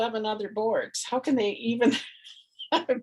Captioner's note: laughs